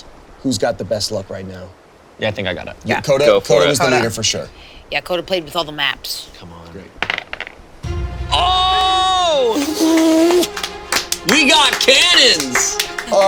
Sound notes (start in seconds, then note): 7.0 dice taps; 7.8 heroic music; 11.7 all applaud